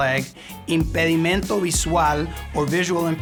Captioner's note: speaking in Spanish